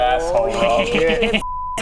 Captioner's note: sadistic GM cackling